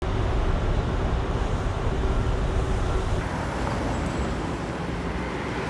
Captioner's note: urban Noises